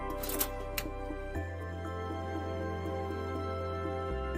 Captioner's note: toaster clicking